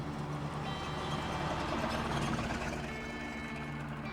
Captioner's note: truck engine humming